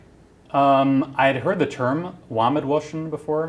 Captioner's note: non-english speech